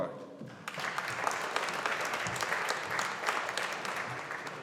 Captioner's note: audience applauding